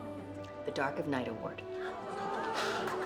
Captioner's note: crowd applauding; postables gasping